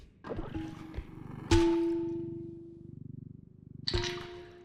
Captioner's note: bright dinging